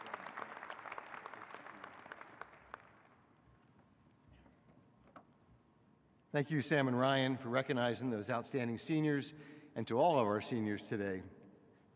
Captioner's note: applause